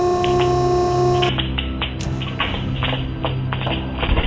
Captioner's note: sling crackling